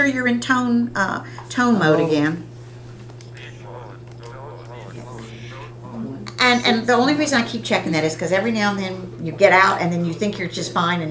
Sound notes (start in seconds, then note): 4.8 calculator voices